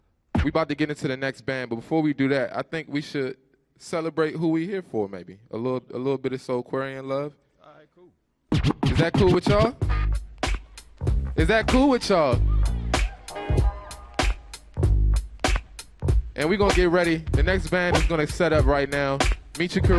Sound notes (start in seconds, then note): 10.3 funky beat; 11.6 audience cheers